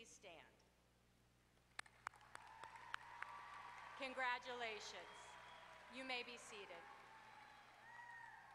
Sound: applause

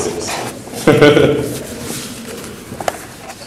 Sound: laughs

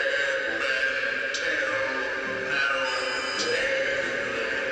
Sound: voices echoing

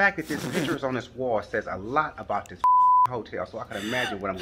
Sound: beeps

